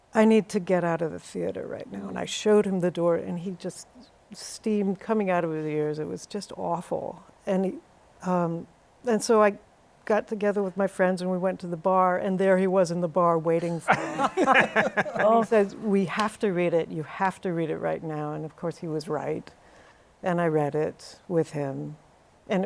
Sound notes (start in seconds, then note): 13.8 laughter